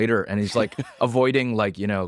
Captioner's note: laughs